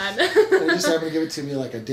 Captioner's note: laughs